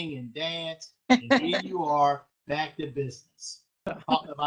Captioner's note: laughter